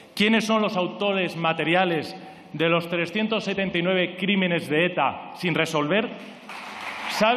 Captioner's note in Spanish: Aplausos